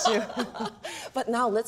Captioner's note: laughter